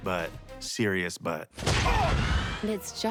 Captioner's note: Mario grunts